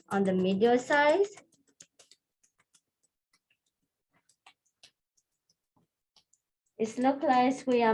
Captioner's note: tapping